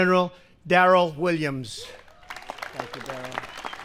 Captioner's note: applause